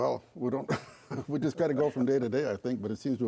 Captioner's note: chuckles